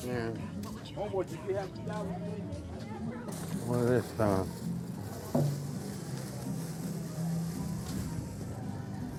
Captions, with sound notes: Yeah. (people chatting in background) What is this stuff?